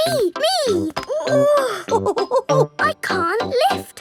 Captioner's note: chuckles; straining